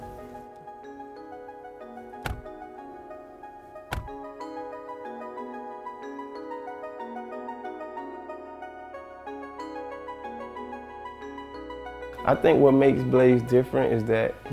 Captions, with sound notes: (car door closes) (mellow music) I think what makes Blaze different is that